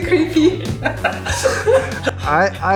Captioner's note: laughing